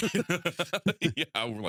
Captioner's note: both Laughing